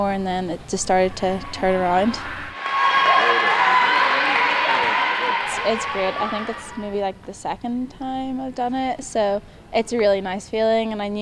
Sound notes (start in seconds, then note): 1.2 cheering